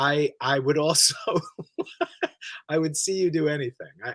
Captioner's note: he laughs